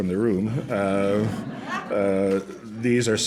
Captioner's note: laughter